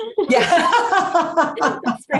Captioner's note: laughter